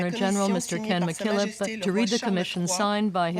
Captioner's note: speaking French